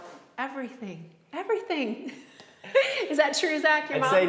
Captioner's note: laughs